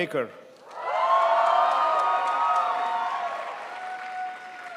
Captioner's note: crowd applauds